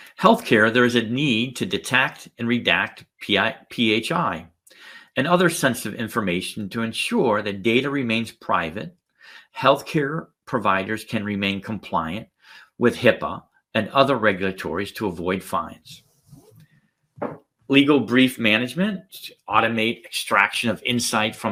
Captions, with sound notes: Healthcare, there is a need to detect and redact PHI and other sensitive information to ensure that data remains private. Healthcare providers can remain compliant with HIPAA and other regulatories to avoid fines. (cloth sliding) (glass tapping) Legal brief management to automate extraction of insight